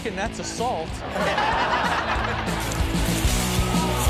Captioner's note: audience laughs